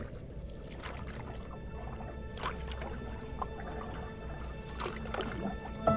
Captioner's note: water bubbling; suspenseful music